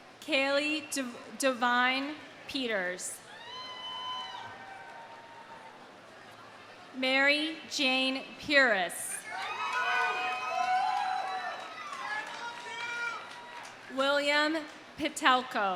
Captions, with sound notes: Cali Devine Peters. (audience cheering) Mary Jane Pieras. (audience cheering) (audience applauding) (audience shouts indistinctly) William Pittelko.